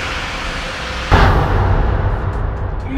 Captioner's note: poof!